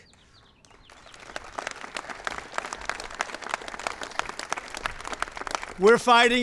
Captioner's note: applause